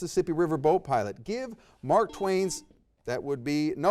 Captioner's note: buzzer beeps